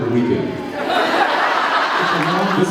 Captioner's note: laughs